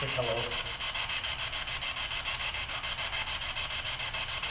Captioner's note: static buzzing